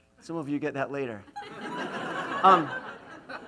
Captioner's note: laughs